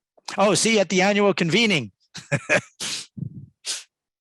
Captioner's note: laughs